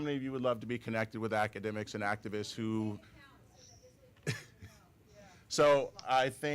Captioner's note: chatter